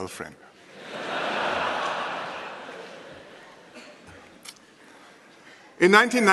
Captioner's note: laughter